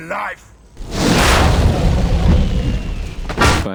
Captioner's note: explosion